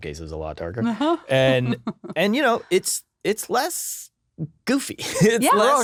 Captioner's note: laughing